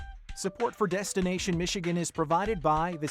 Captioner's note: voiceover